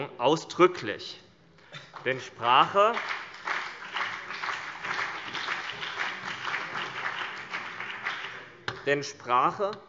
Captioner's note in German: Beifall BÜNDNIS 90/DIE GRÜNEN und vereinzelt CDU